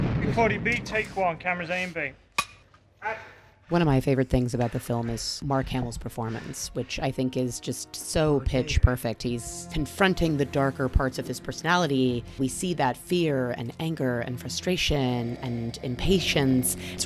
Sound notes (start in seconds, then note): 2.0 slate clack